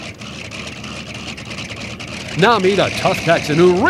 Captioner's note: propellor sputters